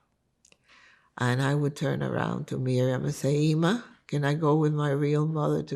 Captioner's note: hebrew